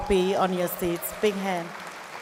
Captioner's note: audience cheers and applauds